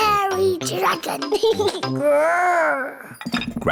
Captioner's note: giggles, growls